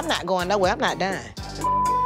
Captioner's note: beep